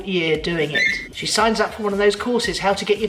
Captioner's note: phone rings